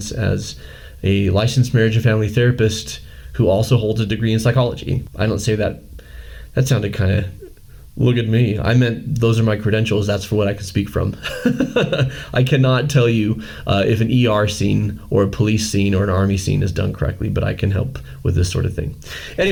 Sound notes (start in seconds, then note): 11.2 laughing